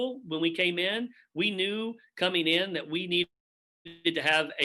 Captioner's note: audio distorts